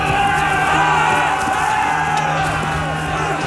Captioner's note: battle cries